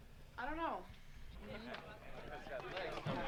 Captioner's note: chatter and laughter